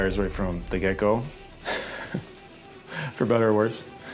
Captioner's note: laughing